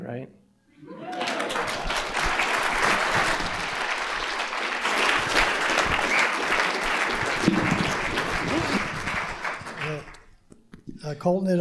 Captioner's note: applause